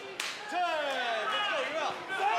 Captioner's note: crowd chatter